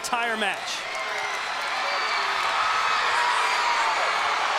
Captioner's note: crowd cheering